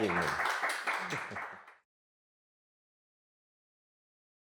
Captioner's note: chuckles